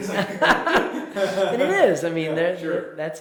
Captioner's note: both laugh